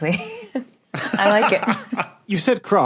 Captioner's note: laughs heartily